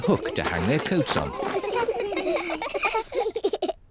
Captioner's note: all laugh